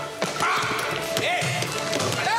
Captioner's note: shouts